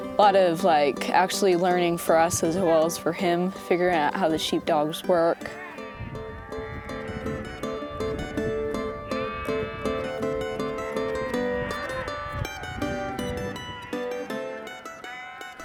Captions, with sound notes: Lot of, like, actually learning for us as well as for him figuring out how the sheepdogs work. (sheep bleating) (upbeat music)